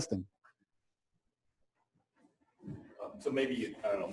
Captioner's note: pause